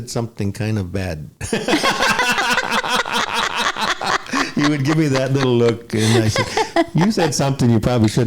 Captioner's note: laughter